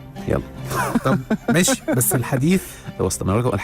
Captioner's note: laughers!